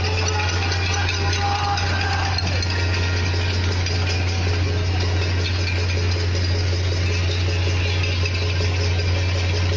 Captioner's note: sound of chants, metal clanging